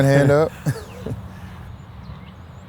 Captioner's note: laughs